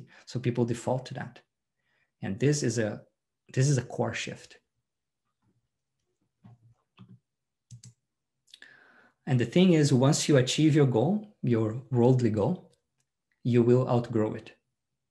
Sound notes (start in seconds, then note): 7.7 mouse clicks